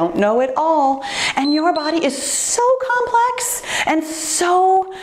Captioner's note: timer beeps